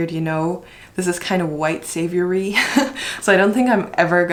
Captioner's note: laughs